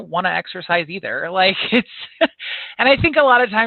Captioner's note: chuckles